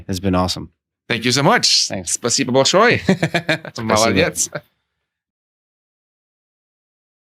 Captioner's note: Speaking in Russian